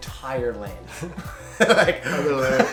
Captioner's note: both laugh